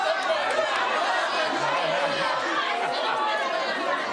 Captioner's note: audience jeers